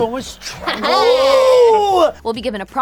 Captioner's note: yelling